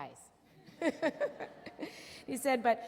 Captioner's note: laughs